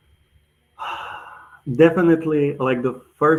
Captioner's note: sighs